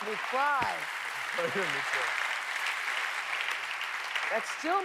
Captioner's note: applause